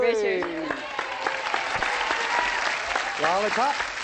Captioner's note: applause